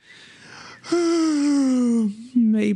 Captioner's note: long yawn